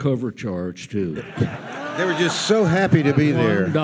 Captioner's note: audience laughs